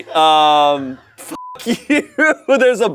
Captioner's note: beep